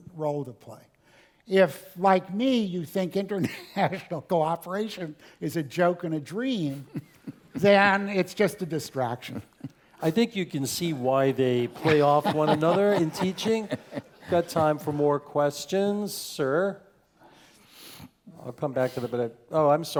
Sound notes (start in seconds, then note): 3.1 laugh; 9.6 laugh; 13.6 laugh